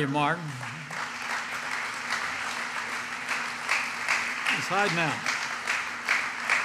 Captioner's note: applause